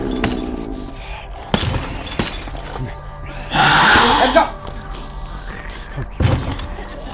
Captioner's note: ghost roaring; ghost squealing; utensils clattering